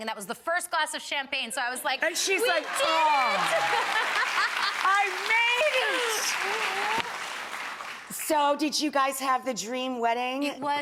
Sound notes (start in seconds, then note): 2.0 audience clapping